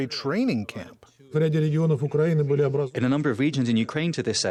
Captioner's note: through translator